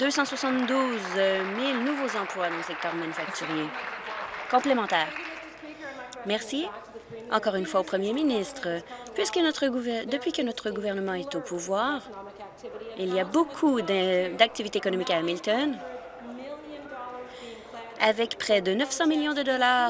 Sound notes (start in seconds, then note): 5.5 applause